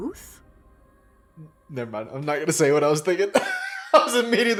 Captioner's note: laughs